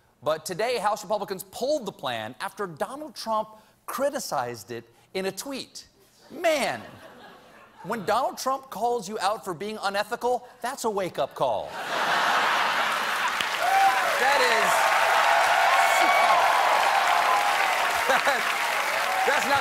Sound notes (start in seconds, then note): 11.7 laughter; 12.3 cheers and applause